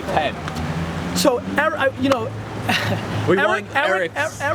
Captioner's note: laughs